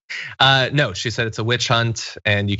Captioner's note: laugh